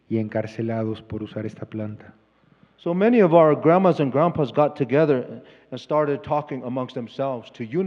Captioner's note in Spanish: Expositor habla en inglés